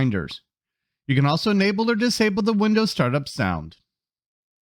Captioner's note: exclamation